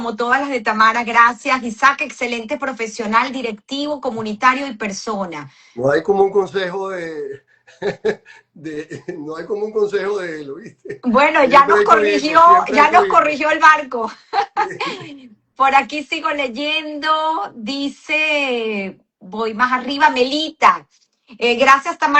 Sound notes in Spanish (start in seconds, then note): 7.7 risas